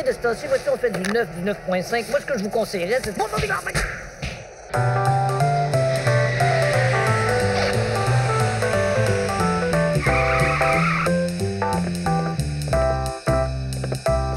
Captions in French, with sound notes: temps-ci, on fait du 9, 9.5. Ce que je vous conseillerais-- [Coups de poing] [Crissement de pneus]